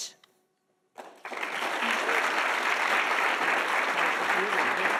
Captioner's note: audience applauding